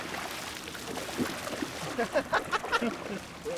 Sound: fish splashing; laughing

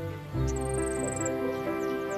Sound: chirps

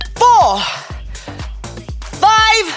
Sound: gasping

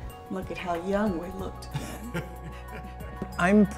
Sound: laughs

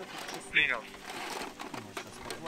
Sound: radio exchange

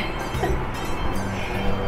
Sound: laughs

